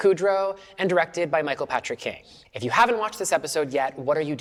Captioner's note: none